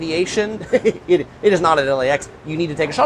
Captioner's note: laughing